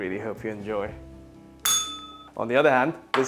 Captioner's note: bell rings